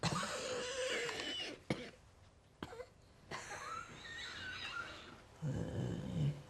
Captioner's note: coughing; coughs